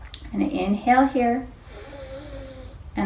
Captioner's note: inhales